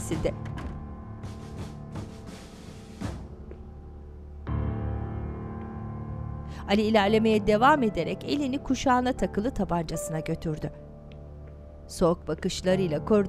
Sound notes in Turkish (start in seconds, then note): 0.1 Kapı kapanma sesi; 2.9 Ayak sesi